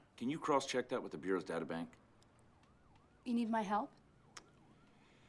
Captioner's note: none